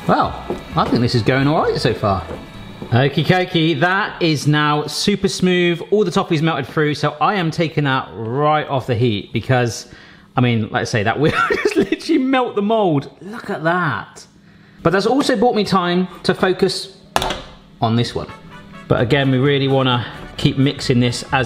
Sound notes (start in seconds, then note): 11.4 laughing